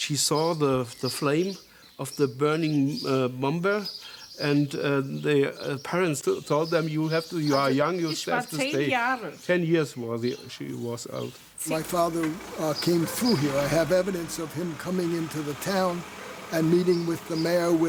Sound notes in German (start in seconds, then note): 9.8 spricht Deutsch